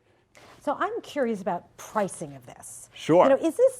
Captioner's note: voiceover